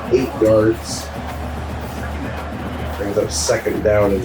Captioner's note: crowd Noises